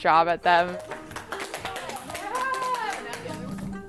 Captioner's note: group applauds